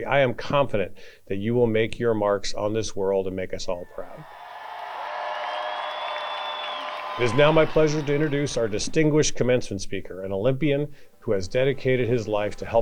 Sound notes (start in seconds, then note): 3.8 audience cheering